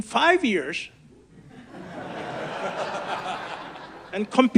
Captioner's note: audience laughs